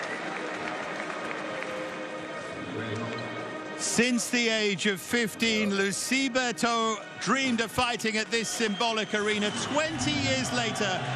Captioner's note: cheers and applause